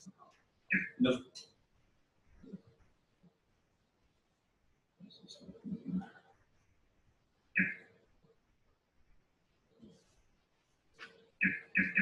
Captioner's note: pause